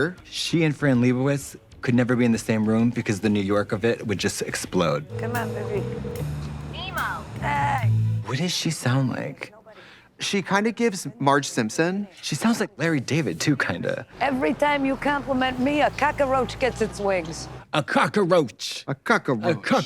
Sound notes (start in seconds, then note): 5.0 phone ringing; 6.9 woman Over Phone